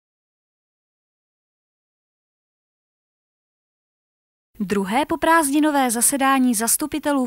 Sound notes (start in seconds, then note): 0.0 silence